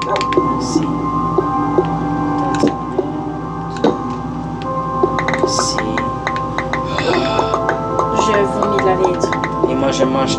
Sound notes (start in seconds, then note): 2.4 music and game sound; 6.4 demon screams